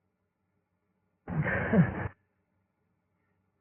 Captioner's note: laughs